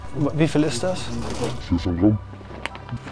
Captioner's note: distorted, French